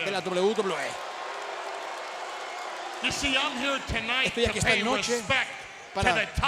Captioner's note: applause